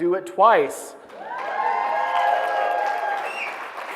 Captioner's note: applause; cheering